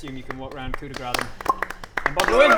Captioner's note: polite applause